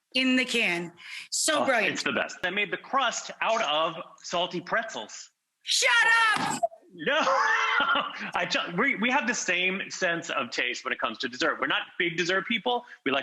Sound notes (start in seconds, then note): 6.0 hands slamming; 6.9 laughing